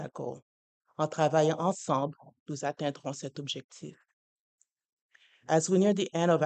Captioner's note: speaking french